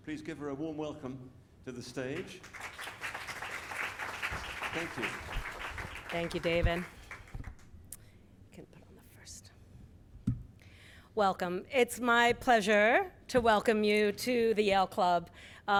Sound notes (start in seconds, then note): 2.1 audience clapping